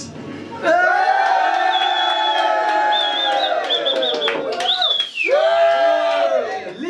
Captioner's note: cheers